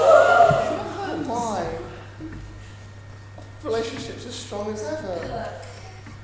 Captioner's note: audience gasps